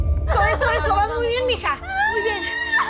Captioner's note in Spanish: Gritos